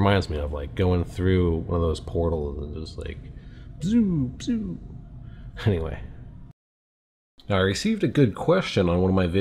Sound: proceeds to make warp noises

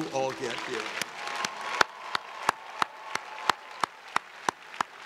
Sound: students cheering

